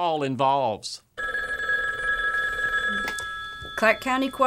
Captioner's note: the phone rings and picks it up